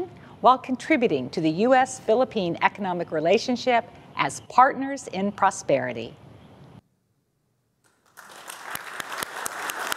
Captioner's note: applause